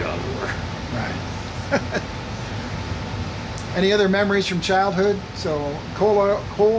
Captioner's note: laughs